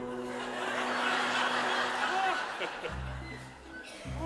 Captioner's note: audience laughs; bright orchestra music